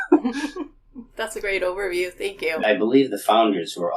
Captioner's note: laughing